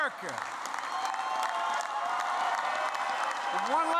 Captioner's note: applause